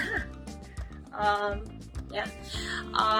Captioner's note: laughs